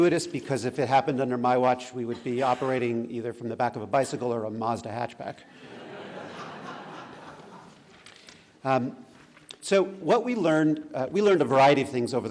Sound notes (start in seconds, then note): 5.5 laughter